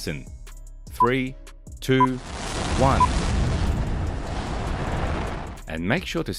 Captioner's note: insert sound of a rocket taking off